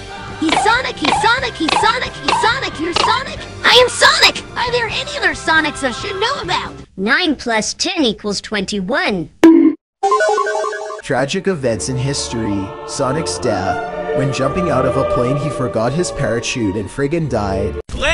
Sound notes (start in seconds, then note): 9.3 bonk